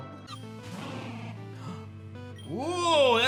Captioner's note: gasps